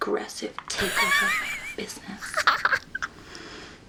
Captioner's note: snickers